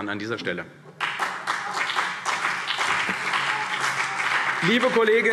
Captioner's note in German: Beifall CDU und BÜNDNIS 90/DIE GRÜNEN